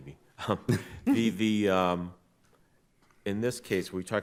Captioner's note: chuckles